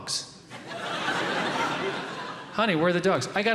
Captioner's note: audience laughing